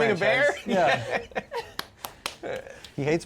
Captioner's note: laughing; claps